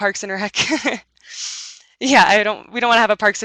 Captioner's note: chuckles